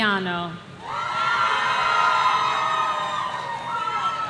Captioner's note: audience cheering